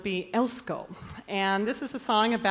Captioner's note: announcer speaking in Basque